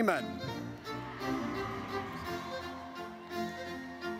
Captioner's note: audience cheers